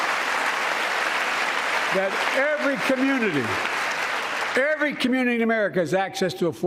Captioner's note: applause